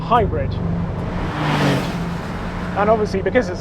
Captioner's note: car whizzes past